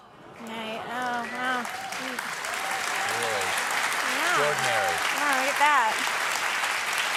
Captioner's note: applause